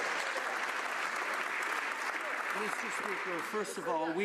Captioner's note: some Applause